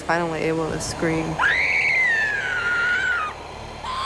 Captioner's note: screams